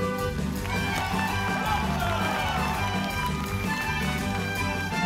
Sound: audience cheering

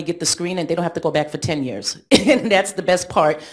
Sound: chuckles

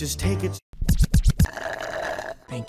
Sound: record scratching; slurp

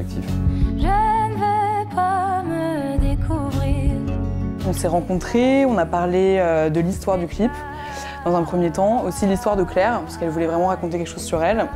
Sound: speaking in french

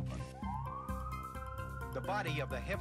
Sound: siren wailing

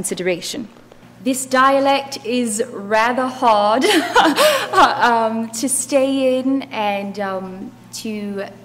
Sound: laugh

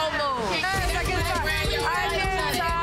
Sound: both chattering

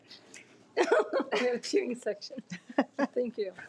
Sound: laughs

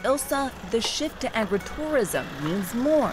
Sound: motor rumbles

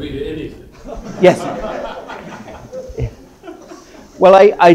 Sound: laughter

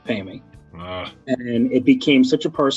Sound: groans

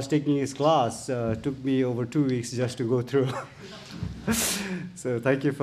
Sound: chuckles

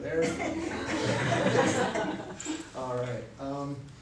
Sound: laughter

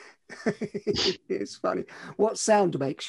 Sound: laughs

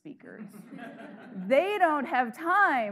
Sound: audience laughing

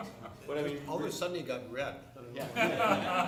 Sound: laughter

